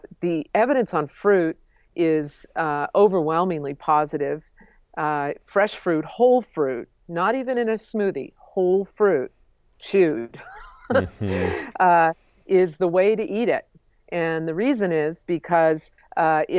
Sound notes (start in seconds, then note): 10.4 laughs